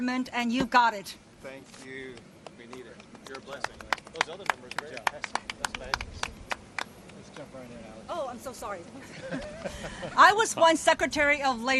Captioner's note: applause